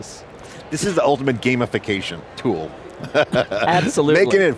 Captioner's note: chuckles